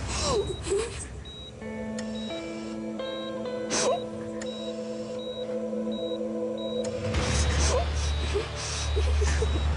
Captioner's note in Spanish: Sollozos